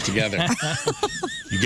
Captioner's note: laughing